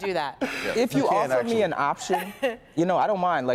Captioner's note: laughter